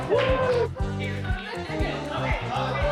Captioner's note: scattered chatter